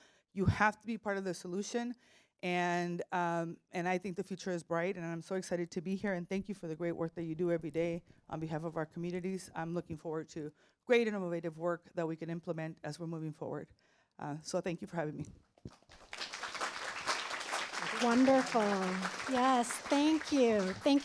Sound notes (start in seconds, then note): 15.7 applause